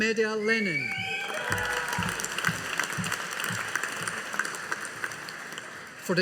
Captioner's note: audience applauding